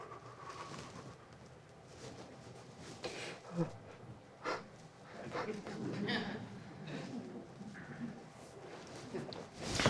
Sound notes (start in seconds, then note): 5.2 panting